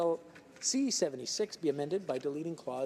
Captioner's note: speaking French